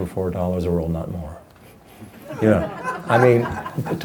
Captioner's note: laughing